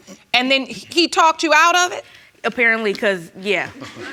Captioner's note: audience laughing